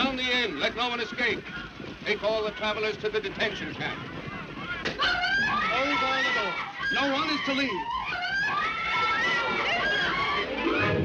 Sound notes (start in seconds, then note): 5.0 people yelling; 8.2 people screaming